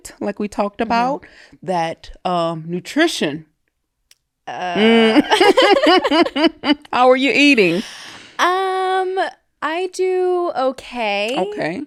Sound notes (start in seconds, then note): 4.8 both laughing